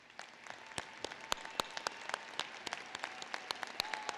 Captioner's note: applause